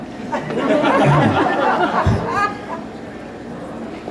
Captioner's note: laughter